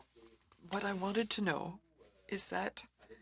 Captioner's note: speaking french